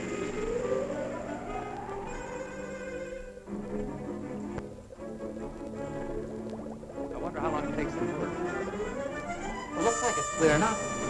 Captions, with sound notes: (machinery whirring) I wonder how long it takes. - It looks like it's clearing up.